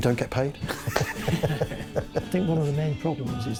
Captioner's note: laughing